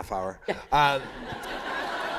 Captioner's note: laughter